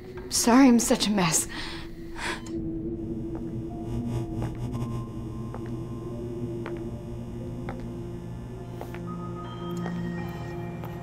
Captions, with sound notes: I'm sorry I'm I'm such a mess. [BEEPING] [ELECTRIC HUMMING] [FOOTSTEPS]